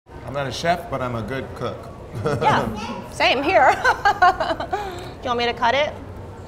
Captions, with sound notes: - I'm not a Chef, but I'm a good cook. - Yeah, same here [laughs] Do you want me to cut it?